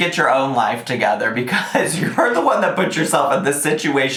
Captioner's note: laughs